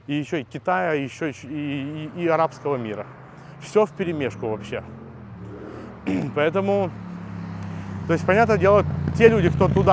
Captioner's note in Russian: откашливается